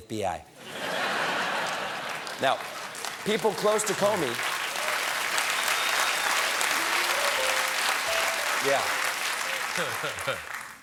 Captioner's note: laughter; applause